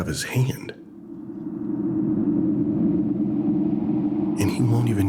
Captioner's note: air whooshing